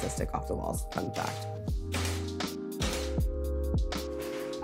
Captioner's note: pleasant music; nail hammer thudding